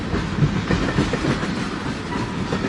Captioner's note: the train is passing